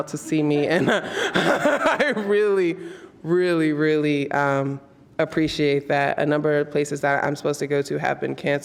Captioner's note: laughs